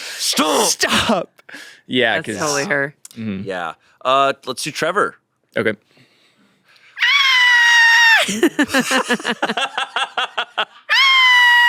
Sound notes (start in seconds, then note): 7.0 screams; 8.2 everyone laughs